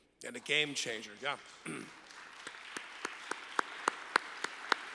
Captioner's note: applause